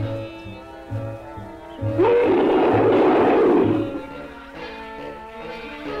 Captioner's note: Pete roaring